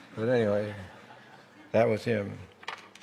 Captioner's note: laughter